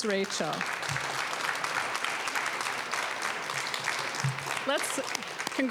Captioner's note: applause